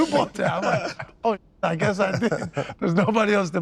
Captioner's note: laughs